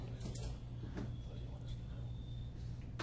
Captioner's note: background Discussion